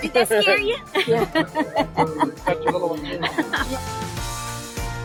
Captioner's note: laughing